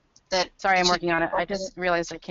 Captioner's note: voiceover